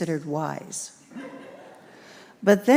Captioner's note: congregation laughs